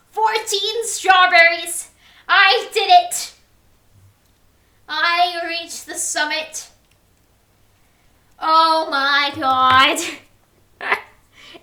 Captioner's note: laugh